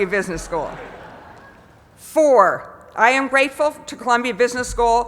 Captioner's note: laugh